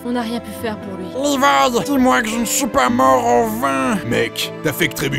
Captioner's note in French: Voix nasale